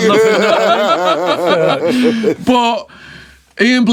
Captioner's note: laughing